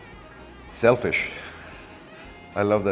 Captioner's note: laughs